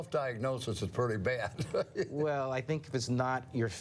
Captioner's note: laughing